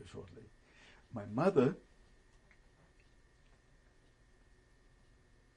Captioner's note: pauses for 3 seconds